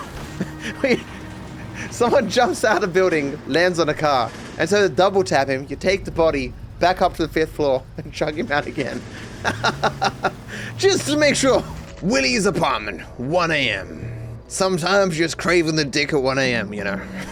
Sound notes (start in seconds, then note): 7.9 laughs